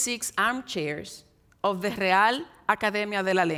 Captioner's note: speaks in Spanish